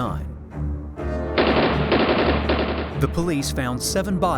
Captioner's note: gunshots